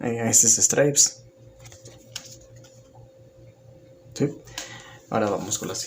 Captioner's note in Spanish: Silencio